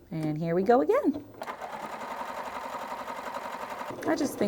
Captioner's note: sewing